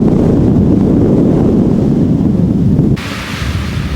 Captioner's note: storm Sounds